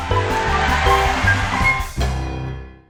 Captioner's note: audience Cheers